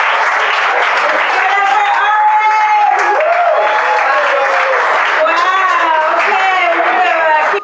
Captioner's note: applause